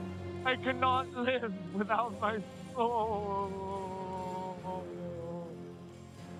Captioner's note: sobs